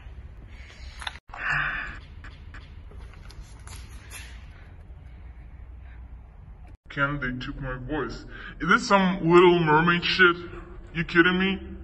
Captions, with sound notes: [sigh] "I can't, they took my voice"... Is that some Little Mermaid shit? You're kidding me?